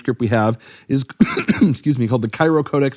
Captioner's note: coughs